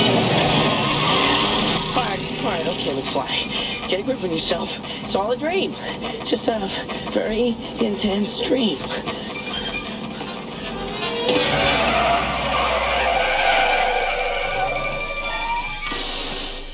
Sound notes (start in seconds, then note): 12.6 tires screeching